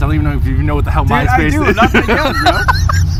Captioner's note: laughs